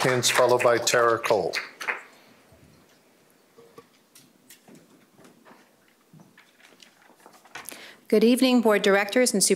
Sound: applause

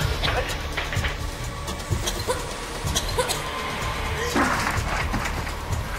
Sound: coughs

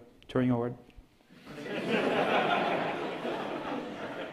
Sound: laughter

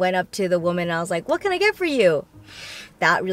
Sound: sniffs

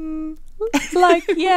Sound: laughing

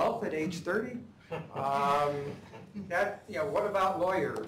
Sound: laughter

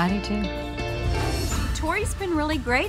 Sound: whoosh

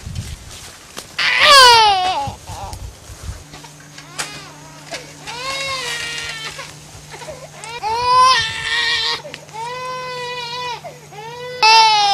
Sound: baby crying

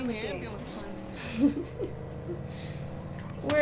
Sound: laughter

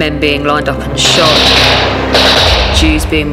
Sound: guns roaring

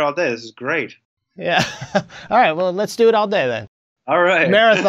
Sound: laughs

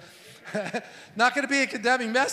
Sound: laughs

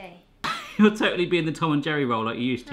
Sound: laughs

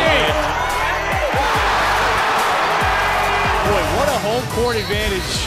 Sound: crowd cheering

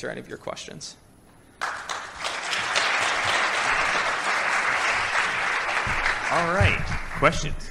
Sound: applause

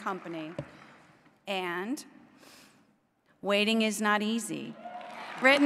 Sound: applause

